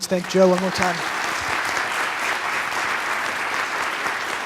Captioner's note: applause